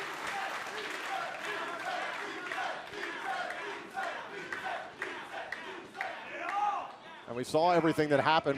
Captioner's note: fans chanting